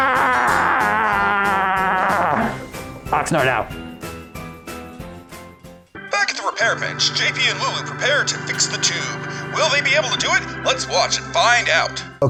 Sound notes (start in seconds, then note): 3.6 old-timey radio announcer voice